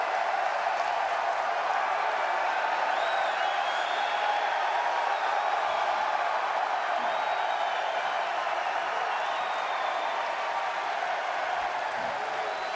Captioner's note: cheers and applause